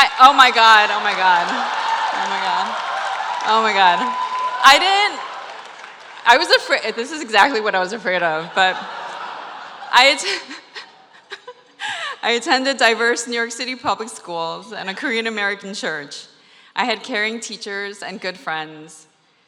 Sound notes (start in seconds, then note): 8.2 laughter